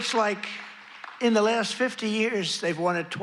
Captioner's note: applause